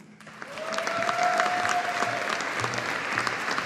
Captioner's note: audience applauding